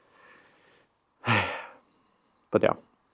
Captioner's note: sighs